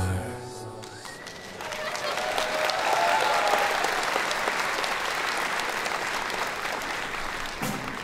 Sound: applause

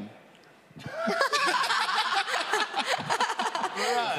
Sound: laughing

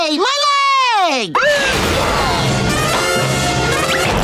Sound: siren blaring

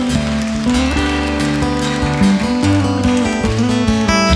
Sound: audience cheering and clapping; folk music

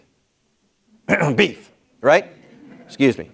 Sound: clears throat

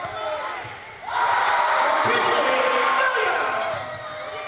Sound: cheers

